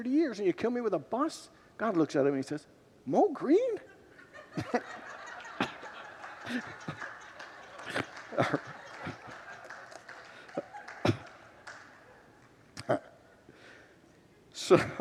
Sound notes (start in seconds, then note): 3.8 laughs with congregants